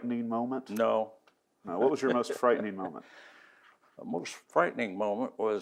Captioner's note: laughs